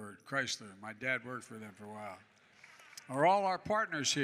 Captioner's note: applause